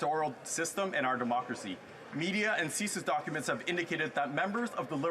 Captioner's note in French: voix de l'interprète